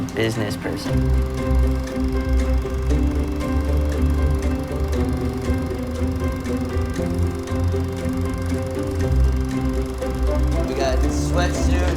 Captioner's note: film reel